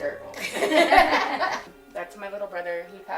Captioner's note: laughing